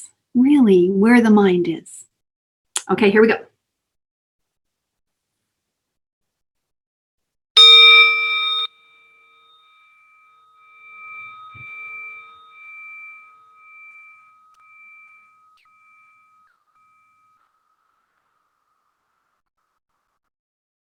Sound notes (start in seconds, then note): 10.0 bell ringing